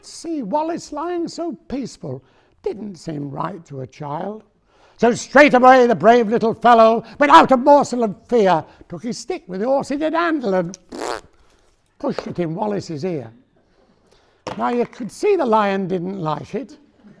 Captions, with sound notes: But see Wallace lying so peaceful didn't seem right to a child So straight away, the brave little fellow went, without morsel and fear took his stick with the horse in the handle and *blows a raspberry noise* pushed it in Wallace's ear Now you could see the lion didn't like it